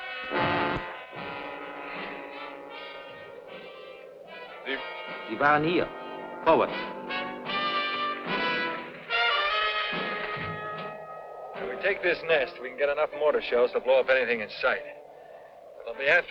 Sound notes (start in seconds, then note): 0.1 dramatic music; 5.6 speaking in a foreign language